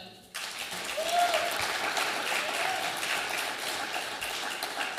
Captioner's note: audience applauding